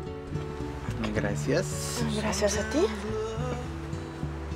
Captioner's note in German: auf Spanisch